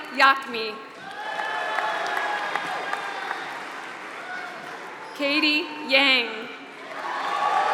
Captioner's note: applause; applause